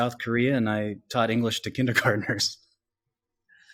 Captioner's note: laughs